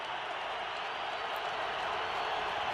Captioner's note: crowd cheering